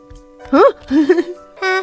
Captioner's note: laughs